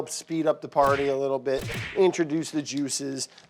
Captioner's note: punches blowing